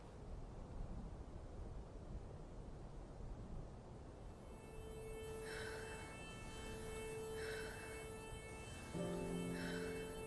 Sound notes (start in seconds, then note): 4.4 soft dramatic music; 5.3 Quinn breathes heavily